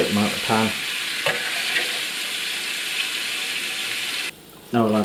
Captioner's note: more sizzlin